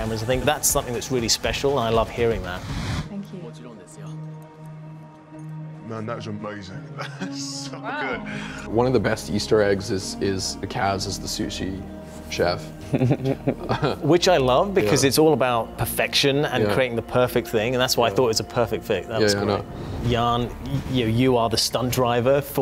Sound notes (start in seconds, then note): 3.9 chef speaks in Japanese; 6.8 chuckles; 12.8 Kazunori chuckles